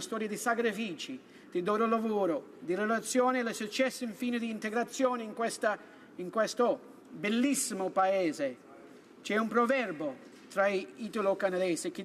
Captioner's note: speaking italian